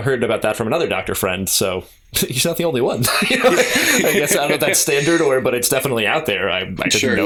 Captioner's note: laughter